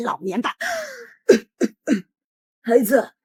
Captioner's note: cough cough cough